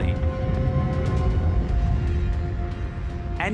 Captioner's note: rumbling